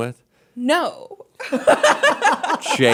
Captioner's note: laughter